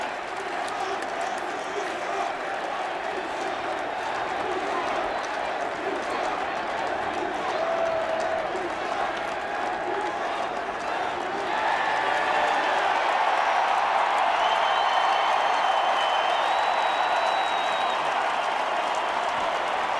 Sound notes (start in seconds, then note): 0.1 chants "HBK"; 6.3 chants "Thank you, Shawn"; 12.2 cheers